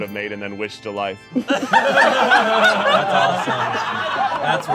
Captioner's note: all laughing